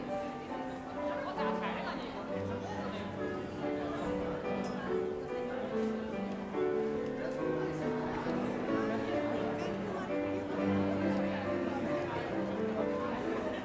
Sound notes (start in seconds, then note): 1.3 audience chattering; 1.3 light piano music